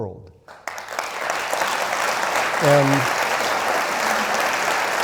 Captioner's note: audience clapping